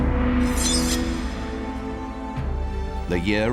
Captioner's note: sword ringing